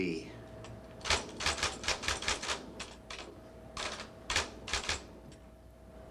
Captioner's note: typewriter keys clacking